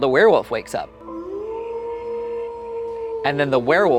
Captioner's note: wolf howling